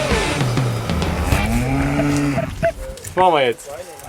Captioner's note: moo